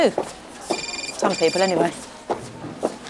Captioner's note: mobile ringing